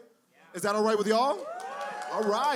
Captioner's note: cheering